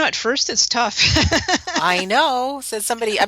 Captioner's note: laughter